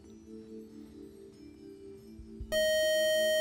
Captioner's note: time up buzzer